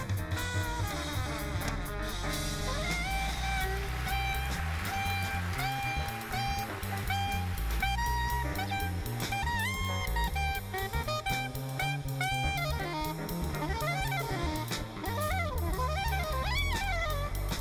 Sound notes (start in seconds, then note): 5.0 applause